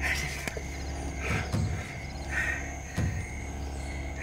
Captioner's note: breathing heavily